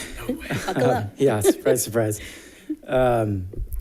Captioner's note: laughs